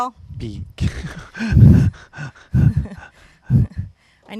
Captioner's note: laughs